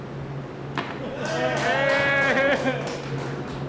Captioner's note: cheers